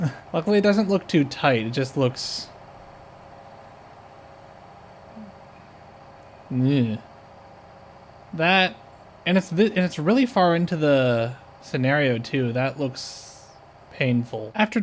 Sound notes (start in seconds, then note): 6.5 discomfort sound